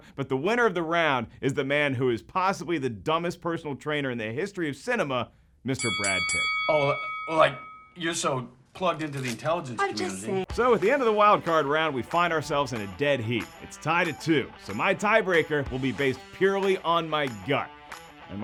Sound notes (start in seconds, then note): 5.8 dinging